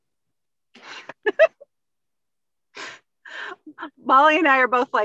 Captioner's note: laughing